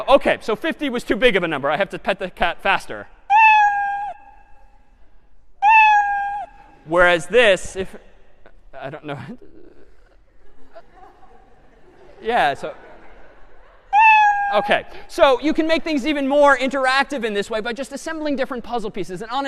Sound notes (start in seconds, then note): 3.3 meowing; 10.3 laughter; 14.0 meow